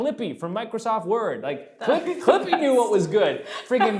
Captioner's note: laughing